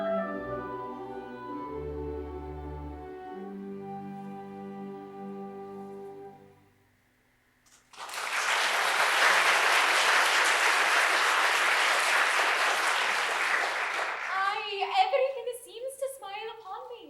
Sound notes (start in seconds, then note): 7.7 applause